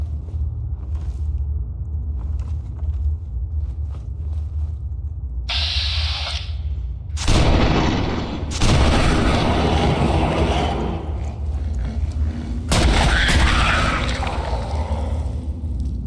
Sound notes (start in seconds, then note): 5.5 electricity buzzing; 7.2 exploding